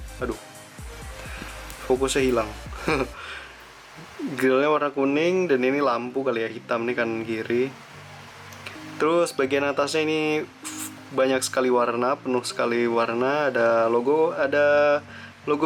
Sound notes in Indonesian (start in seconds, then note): 2.6 tertawa